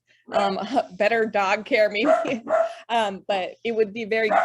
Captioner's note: laughs